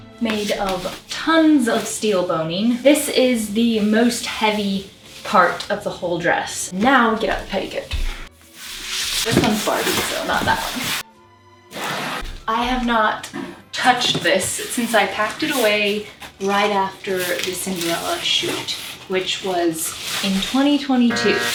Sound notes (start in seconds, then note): 8.6 more box sliding; 11.0 scissors on box